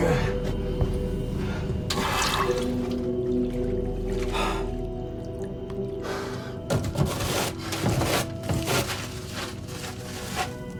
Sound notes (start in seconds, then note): 0.1 Cole grunting; 1.9 water splashing; 7.0 paper towels rustling